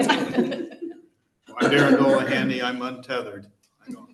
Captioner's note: laughter